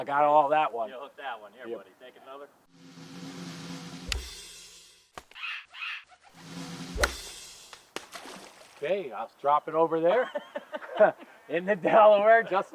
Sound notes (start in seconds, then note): 2.7 drum roll pattering; 6.3 drum roll pattering; 7.8 splashing